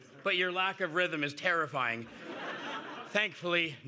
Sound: laughter

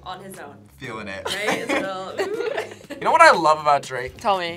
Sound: laughs

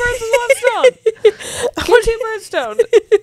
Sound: panel laughing

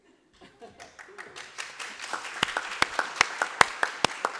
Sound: applause

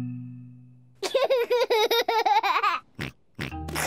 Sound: giggles

